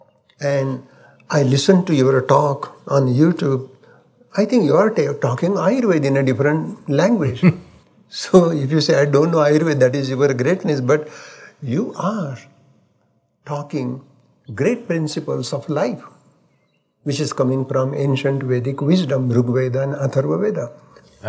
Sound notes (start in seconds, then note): 7.2 Sadhguru chuckles